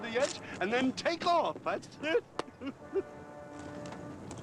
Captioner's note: chuckles